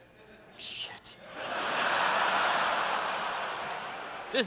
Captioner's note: laughter